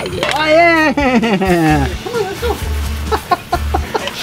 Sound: laughing

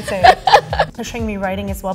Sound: laughs

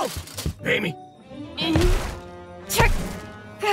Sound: armor clinking; footsteps thumping; tense orchestral music

